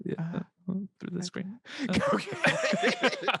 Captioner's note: both laugh